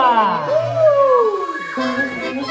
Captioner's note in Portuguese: Efeito sonoro de transição; Música e efeitos sonoros